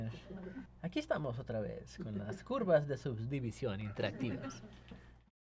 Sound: speaks in Spanish

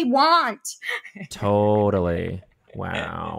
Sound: laughing

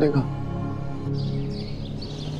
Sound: birds chirping

